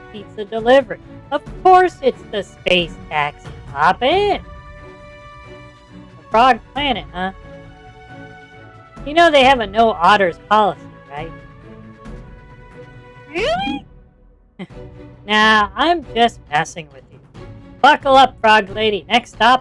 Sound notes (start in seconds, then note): 12.4 nervously; 13.3 laughs